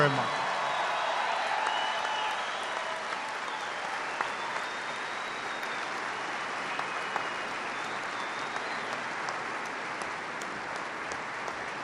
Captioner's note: applause